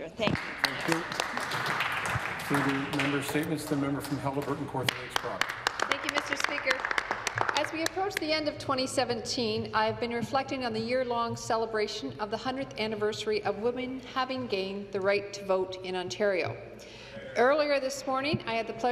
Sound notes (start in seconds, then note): 6.0 some Applause